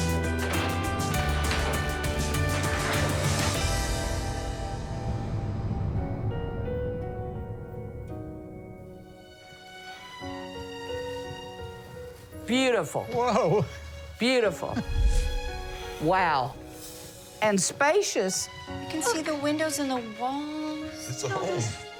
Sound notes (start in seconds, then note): 5.6 gentle music plays; 14.7 chuckles